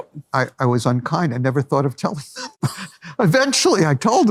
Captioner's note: laughs